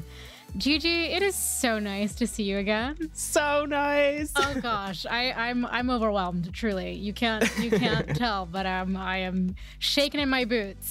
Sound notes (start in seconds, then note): 7.3 laughs